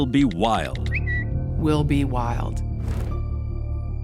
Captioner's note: tweet sends